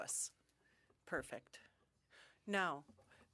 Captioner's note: speaking French